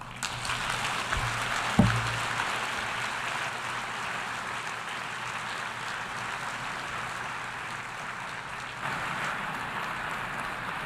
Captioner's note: applause